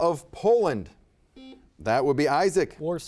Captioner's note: buzzer beeping